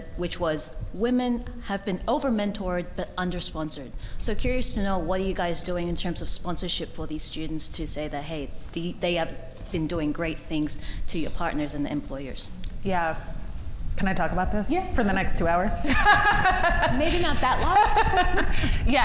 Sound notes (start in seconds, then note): 15.9 laughs